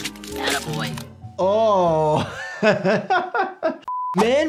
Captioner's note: laughs